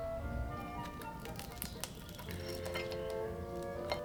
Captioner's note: bread cracks